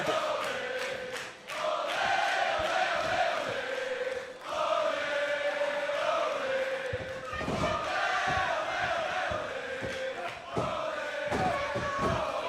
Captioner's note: crowd cheering